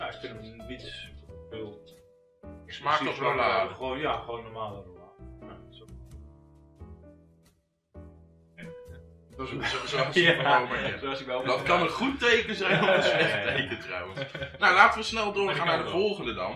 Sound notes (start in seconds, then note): 8.6 laugh